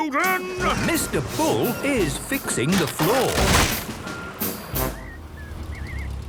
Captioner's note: tractor noise, floorboards cracking